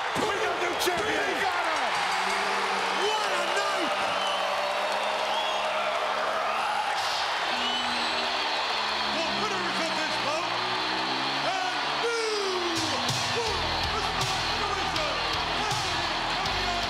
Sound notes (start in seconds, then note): 4.4 applause